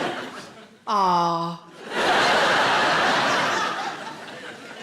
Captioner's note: audience laughs